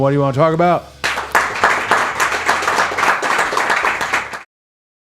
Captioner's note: all applauding